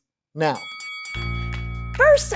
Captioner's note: bell ringing